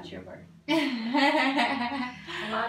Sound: laughs

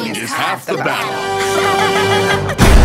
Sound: all laughing

